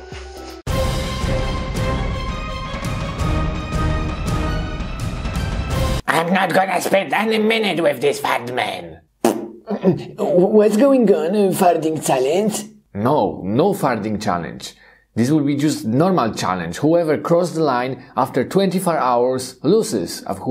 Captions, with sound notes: (dramatic music) - I'm not gonna spend any minute with this fart man. (Mugman makes farting sound) - What's going on, a farting challenge? - No, no farting challenge. This will be just normal challenge. Whoever cross the line after 24 hours loses.